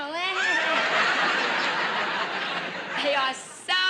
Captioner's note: audience laughter